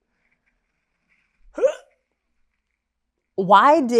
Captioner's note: gagging noise